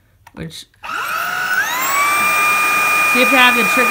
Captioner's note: vacuum noises